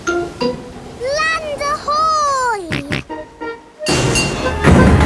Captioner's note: snorts